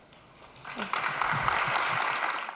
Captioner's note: audience applauds